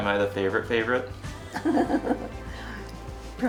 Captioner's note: laughter